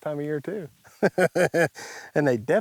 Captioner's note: laughs